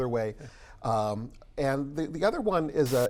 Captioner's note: static